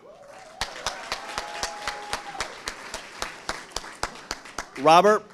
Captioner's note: audience applauding